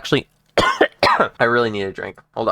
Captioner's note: aggressive coughing